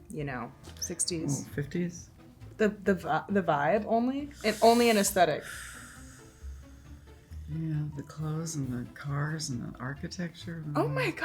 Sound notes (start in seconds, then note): 4.4 Hannah sighing